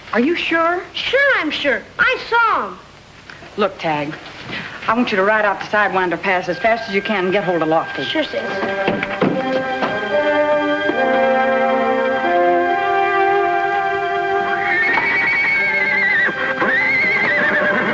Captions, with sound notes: - Are you sure? - Sure I'm sure, I saw 'em. - Look, Tagg, I want you to ride out to Sidewinder Pass as fast as you can and get hold of Lofty. - Sure sis. (footsteps stomping) (tense music) (horse whinnying)